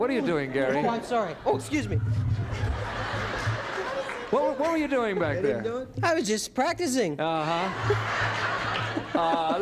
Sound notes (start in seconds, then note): 2.2 laughter